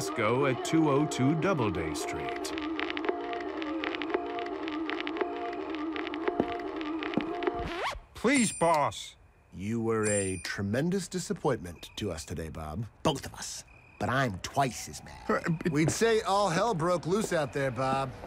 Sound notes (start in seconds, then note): 1.1 record skipping; 7.0 record stops; 14.5 stammering